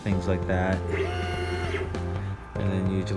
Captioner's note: whirs